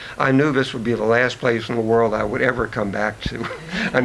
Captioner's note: chuckles